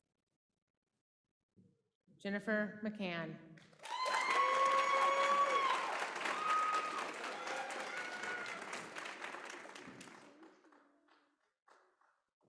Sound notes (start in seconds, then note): 3.5 applause